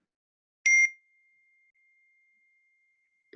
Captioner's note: beep